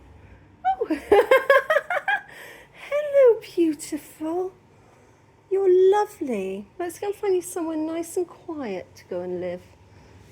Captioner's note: laughing